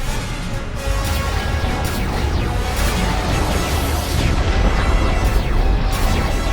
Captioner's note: ongoing sounds of battle